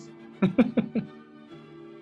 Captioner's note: giggling